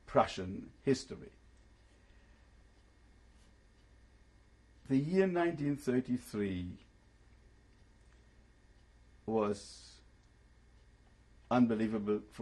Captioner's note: pauses for 3 seconds